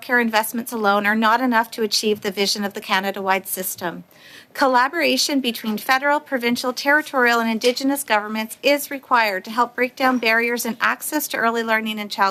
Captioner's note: audio interruption